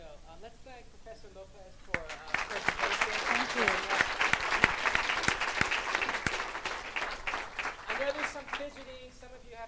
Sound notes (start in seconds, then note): 3.9 clapping